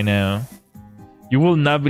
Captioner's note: none